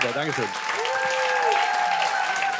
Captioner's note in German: Jubel und Applaus